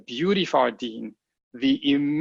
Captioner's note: speaking a foreign language